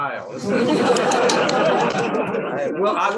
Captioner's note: laughter